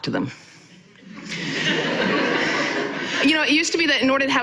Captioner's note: audience laughing